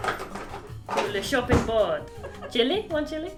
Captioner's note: fake french accent